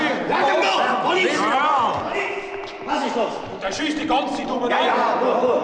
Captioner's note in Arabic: الشرطة تتحدث بلغة أجنبية